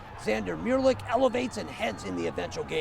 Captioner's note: cheering